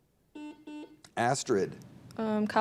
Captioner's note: buzzer dings